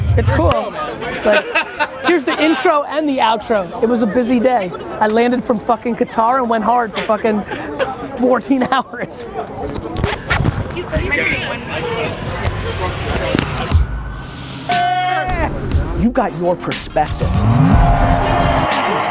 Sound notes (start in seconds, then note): 0.7 laughs; 8.8 laughs; 14.7 cheers